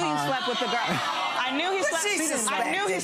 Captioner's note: audience chatter